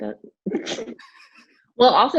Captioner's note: laughs